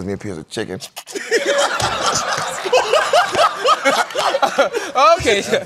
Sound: laughter

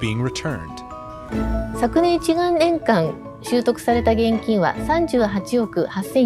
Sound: speaking foreign language

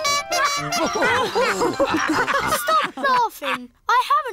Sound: toots horn; all laugh

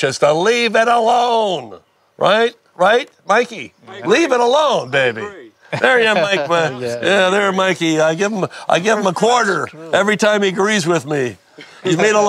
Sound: all laugh

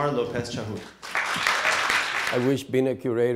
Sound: applause

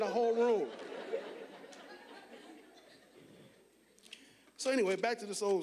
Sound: audience laughing

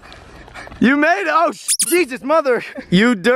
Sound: squeak

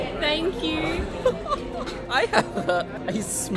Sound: laughing

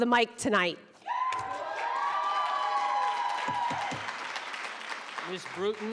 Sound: audience cheering

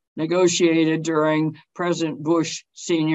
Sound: none

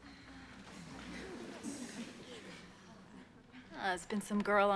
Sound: girls giggle

